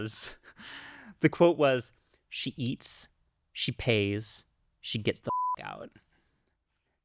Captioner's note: beep